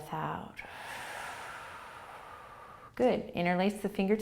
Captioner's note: exhaling